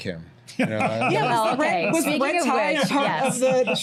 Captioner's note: laughs